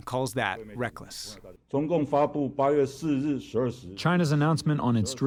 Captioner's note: through translator